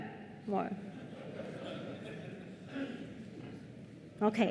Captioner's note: laughter